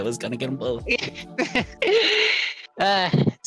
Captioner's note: laugh